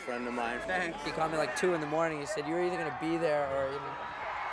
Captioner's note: cheers and Applause